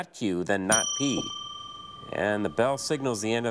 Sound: bell dings

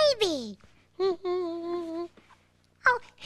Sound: humming

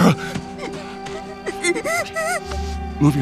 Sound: crying

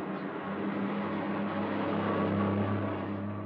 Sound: car Approaching

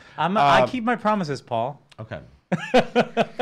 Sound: laughing

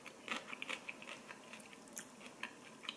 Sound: crunch, crunch

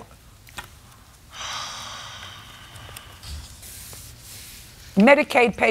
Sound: sighs

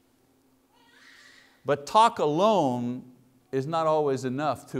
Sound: baby cries

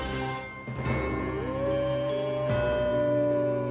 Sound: howling

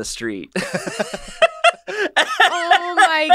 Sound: laughs

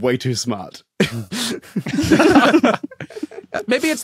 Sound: group giggling

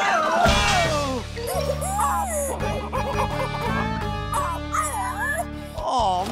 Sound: squeaking

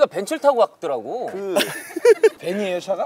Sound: laughing

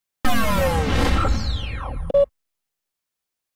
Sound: digital video game sounds winding-down

